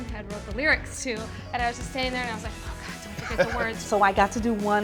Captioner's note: laughs